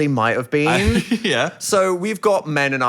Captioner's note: chuckling